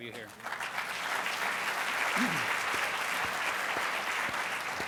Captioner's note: applause